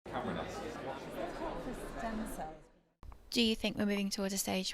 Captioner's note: background chatter